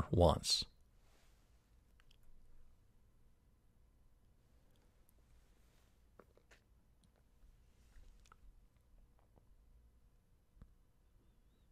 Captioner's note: pause